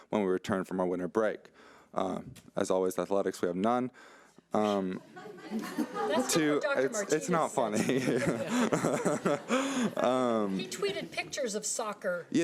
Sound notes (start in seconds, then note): 5.0 audience laughing; 7.7 laughing; 9.4 audience laughing